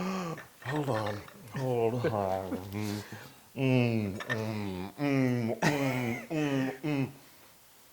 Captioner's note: laugh